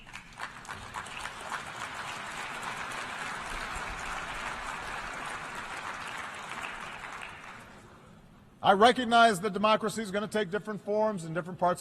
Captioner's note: applause